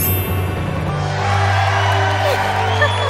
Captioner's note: xylophone chimes; crowd cheers and applauds; Princess Oren laughs